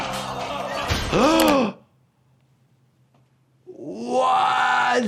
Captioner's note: person working out screaming; gasping